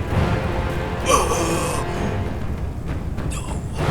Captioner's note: Man in the Fields groaning